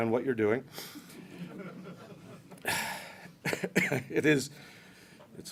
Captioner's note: laughter